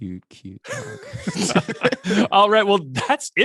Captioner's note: both laughing